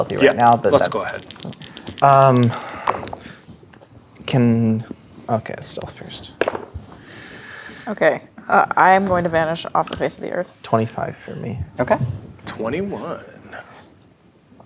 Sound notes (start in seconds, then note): 2.8 dice rolling; 6.3 dice rolling